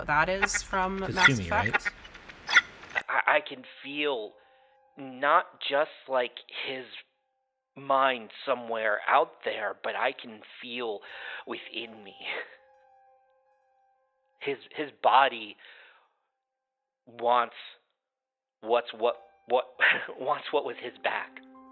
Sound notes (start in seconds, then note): 2.2 static